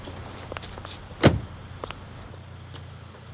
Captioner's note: car door slamming; footsteps clacking